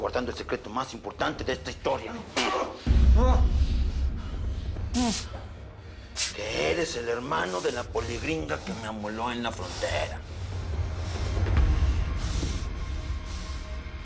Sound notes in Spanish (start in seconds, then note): 4.8 Gemidos